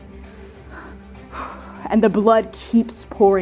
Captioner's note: both breathing heavily